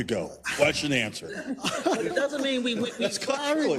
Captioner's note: laugh